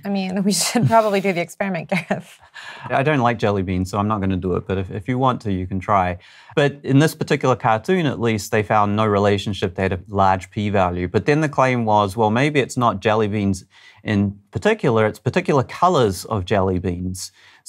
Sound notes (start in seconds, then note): 2.6 chuckles